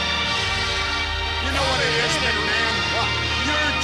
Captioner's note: crowd booing